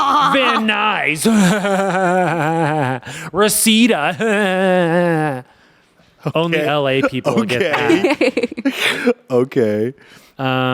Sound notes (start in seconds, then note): 0.0 laughs; 4.8 laughs; 7.2 everyone laughs